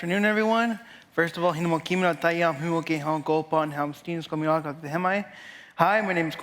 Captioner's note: speaking foreign language